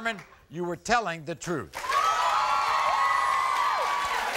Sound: cheering

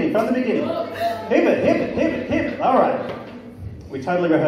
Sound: bad imitation of a record scratch

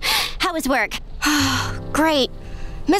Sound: sighing

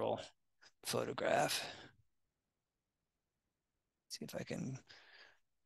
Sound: silence

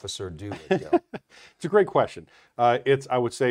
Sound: laughs

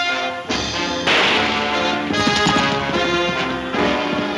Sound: guns firing

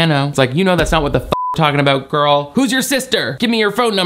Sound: beep

